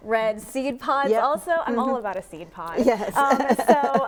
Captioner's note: chuckles